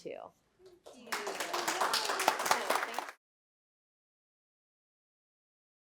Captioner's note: applause